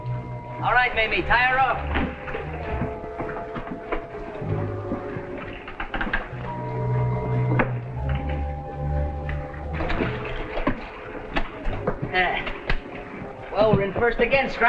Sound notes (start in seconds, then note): 3.5 suspenseful music - waves splashing; 9.7 waves splashing